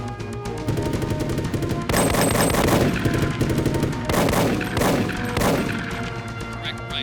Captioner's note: machine gun blasting; gunshots blasting